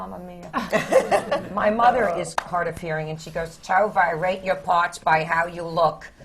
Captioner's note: laughter